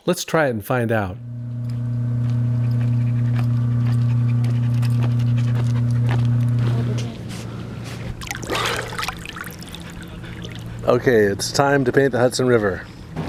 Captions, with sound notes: Let's try it and find out. (dog panting) (water splashes) Okay, it's time to paint the Hudson River.